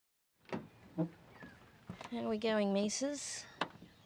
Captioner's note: van door creaks